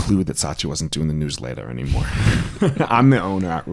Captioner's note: both laugh